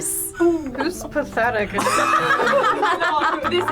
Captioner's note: group laughs